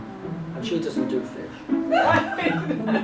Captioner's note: visitors laugh